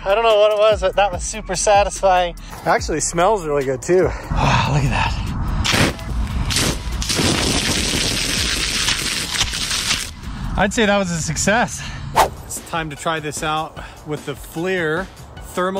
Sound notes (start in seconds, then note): 6.5 water spraying